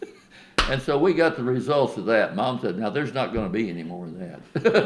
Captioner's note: laughs